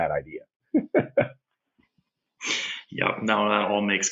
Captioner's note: laughs